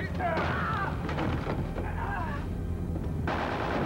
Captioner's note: groans